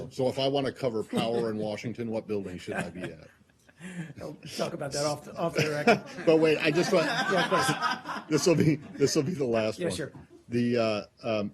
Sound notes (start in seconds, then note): 5.5 laughter